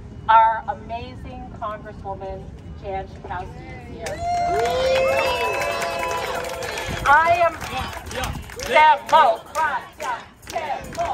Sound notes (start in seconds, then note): 4.0 applause